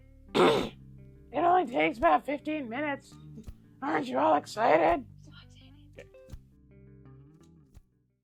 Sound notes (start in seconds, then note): 0.3 clears throat; 2.5 high raspy voice